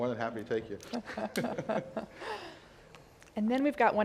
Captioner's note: laugh